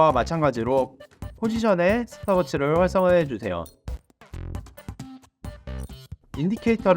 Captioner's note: Stopwatch